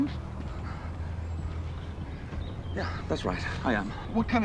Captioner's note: birds chirping